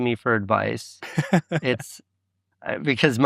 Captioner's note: laughing